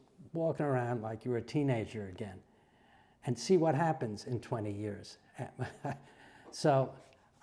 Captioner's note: laugh